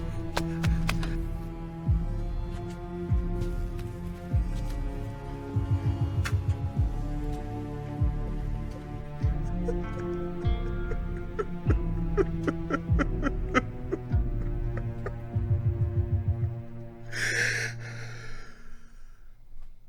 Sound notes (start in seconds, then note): 9.1 Patrick sobs; 17.1 Patrick gasps